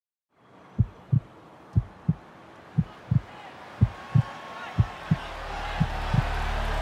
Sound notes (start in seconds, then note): 0.8 heartbeat thumping; 4.1 crowd cheering